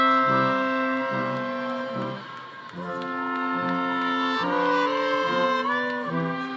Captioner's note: audience applauding; audience cheering